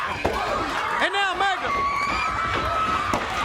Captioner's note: crowd chatter